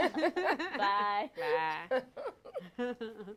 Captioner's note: laughter